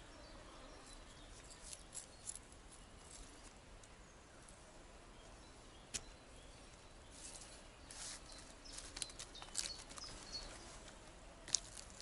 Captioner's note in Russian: Пение птиц